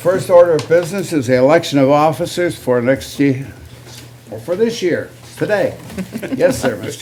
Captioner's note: laughter